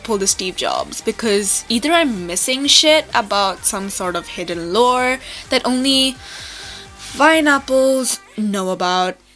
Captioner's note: inhales